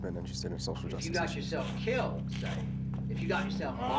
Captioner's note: voiceover